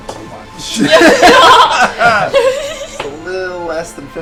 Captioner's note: laughter